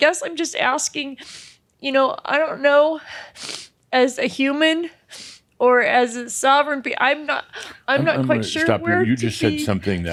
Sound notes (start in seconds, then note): 3.1 sniffling